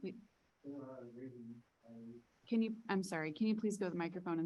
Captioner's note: people chattering